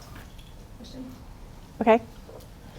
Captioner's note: attendee Through Translator